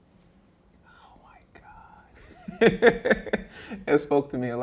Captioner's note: laughing